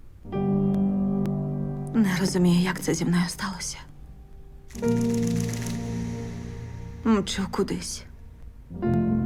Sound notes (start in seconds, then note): 0.1 solemn music playing; 4.7 shutter clicking